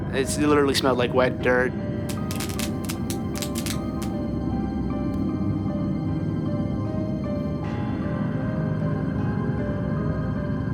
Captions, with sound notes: It literally smelled like wet dirt. (lights crackling) (eerie music)